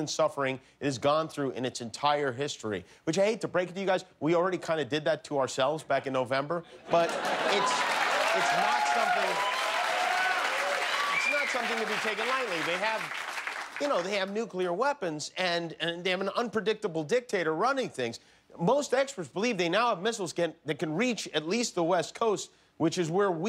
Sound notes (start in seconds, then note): 6.7 laughter; 9.0 cheers and applause